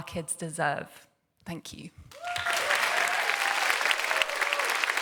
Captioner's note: applause